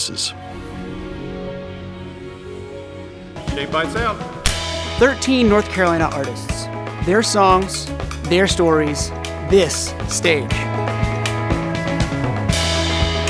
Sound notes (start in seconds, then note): 0.2 gentle music; 4.4 clapperboard clicks; 10.4 lively music